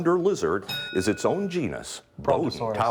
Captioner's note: ding